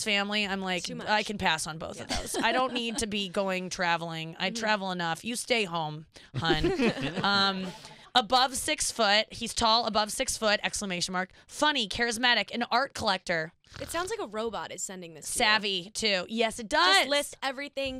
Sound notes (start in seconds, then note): 6.4 laughing